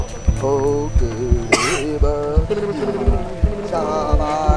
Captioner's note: tribesmen chanting